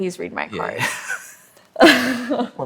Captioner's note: laughter